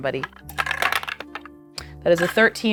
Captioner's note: die rattling